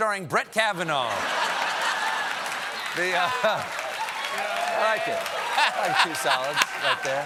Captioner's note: applause; laughter